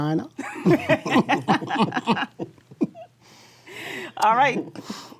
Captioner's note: all laughing